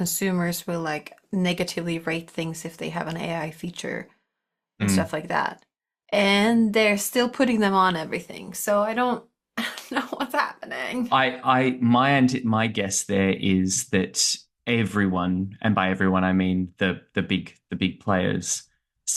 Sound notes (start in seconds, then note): 11.1 chuckles